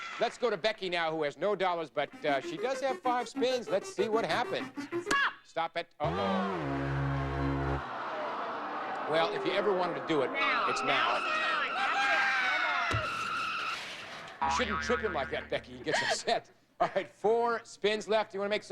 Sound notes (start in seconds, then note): 7.7 audience Aw